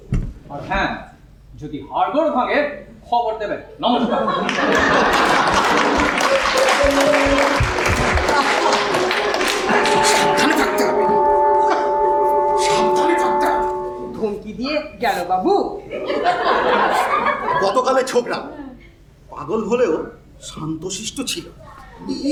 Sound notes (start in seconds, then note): 4.4 audience applause